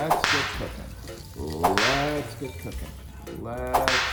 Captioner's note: whip snapping; whip snapping